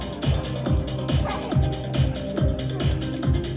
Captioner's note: child giggles